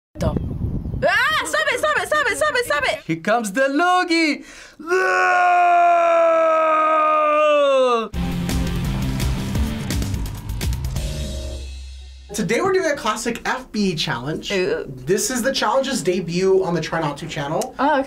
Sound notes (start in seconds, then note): 4.8 yells; 8.1 rock intro